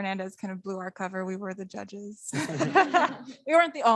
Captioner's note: laughs